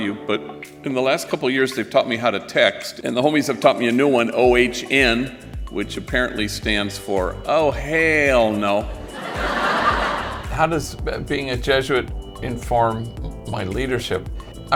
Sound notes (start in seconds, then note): 9.1 audience laughing